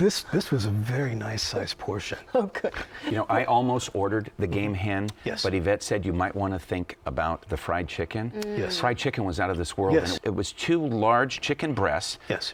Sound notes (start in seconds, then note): 2.4 chuckling